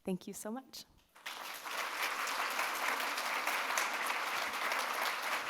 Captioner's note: audience applauding